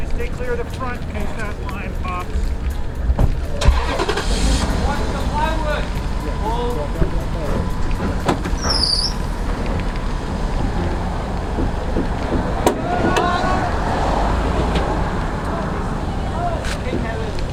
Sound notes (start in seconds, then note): 3.7 truck Starts; 12.0 creeking sound